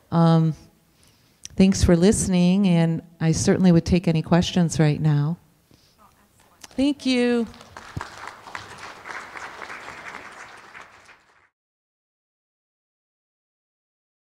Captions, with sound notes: Thanks for listening and I certainly would take any questions right now. Thank you. (applauding)